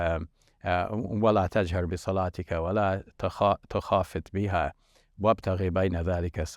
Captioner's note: speaks foreign language